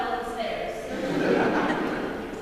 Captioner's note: laughter